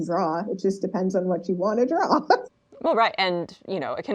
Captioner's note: laughs